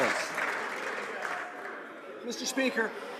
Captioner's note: some Applause